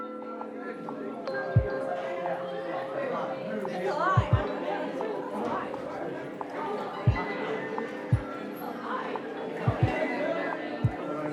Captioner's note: crowd chatter